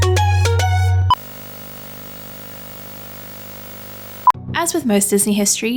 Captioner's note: television static